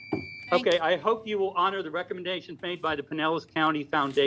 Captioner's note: buzzer